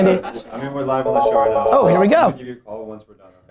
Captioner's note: phone rings